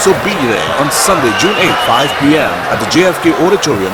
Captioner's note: wild applause and cheering for 22 seconds